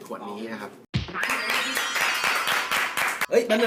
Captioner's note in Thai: เสียงปรบมือ